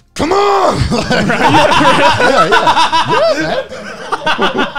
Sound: everyone laughs

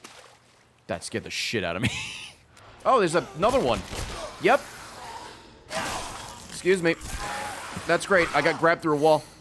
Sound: laughs

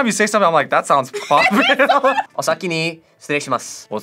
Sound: both laugh

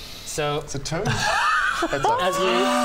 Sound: resigned hysterics

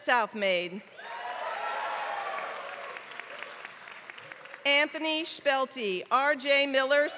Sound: applause

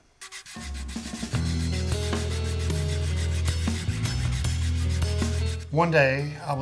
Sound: wood sanding; light music

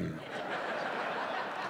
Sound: audience laughing

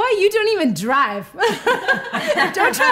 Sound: laughing

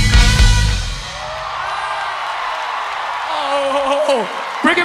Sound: audience applause

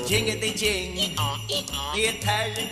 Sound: donkey braying

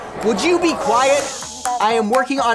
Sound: shushing

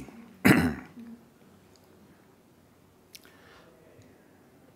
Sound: clears throat

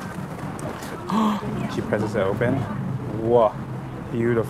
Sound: gasps

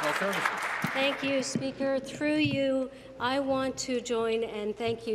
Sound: applause

